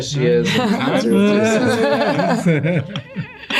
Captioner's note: laughing